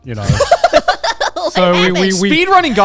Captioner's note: everyone laughing